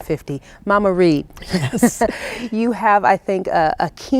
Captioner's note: laughing